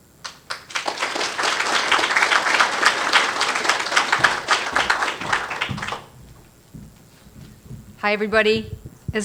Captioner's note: applause